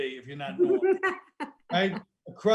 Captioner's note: laughing